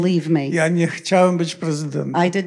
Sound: foreign language

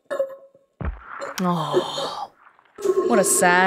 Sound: sigh

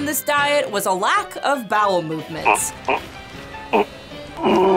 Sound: grunting

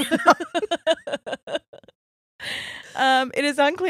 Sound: both laughing

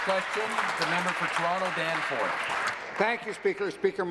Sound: applause

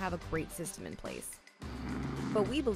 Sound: growling

